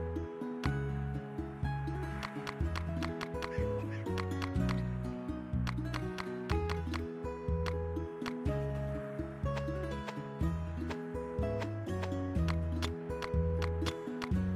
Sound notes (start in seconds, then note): 2.2 clap